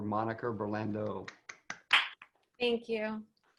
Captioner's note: clapping